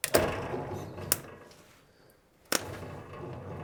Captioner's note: engine shutters